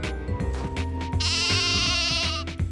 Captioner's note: bleats